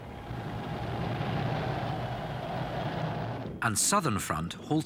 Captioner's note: missiles roaring